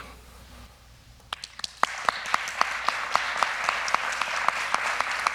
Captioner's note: applause